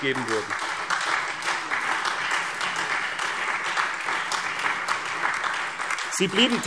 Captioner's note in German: Beifall SPD und Freie Demokraten